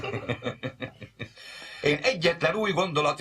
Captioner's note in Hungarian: kuncogás, nevetés